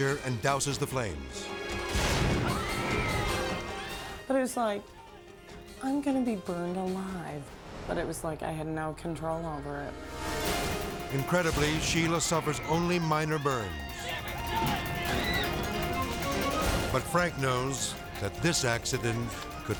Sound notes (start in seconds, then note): 1.8 trick exploding; 2.2 crowd screaming; 14.7 dramatic music